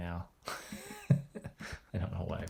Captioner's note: laughs